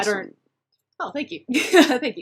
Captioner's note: laughs